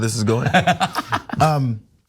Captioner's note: laugh